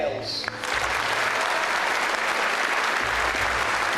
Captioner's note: voiceover; applause